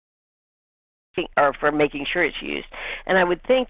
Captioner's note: voiceover